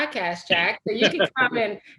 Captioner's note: laughing